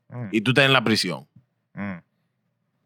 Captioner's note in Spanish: Hablando en idioma extranjero